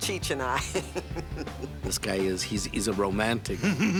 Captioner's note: laughs